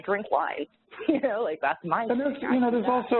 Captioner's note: laughs